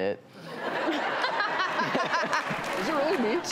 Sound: audience laughs

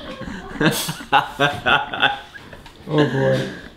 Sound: laughter

